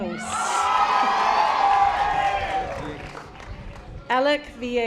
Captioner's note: audience applause